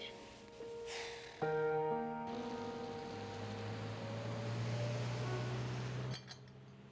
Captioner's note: Rene sighs; traffic hums and honks; glass clinks